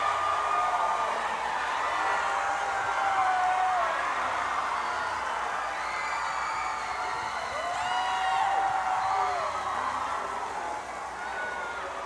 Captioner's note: cheers and applause